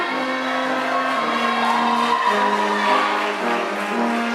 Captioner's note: audience applauds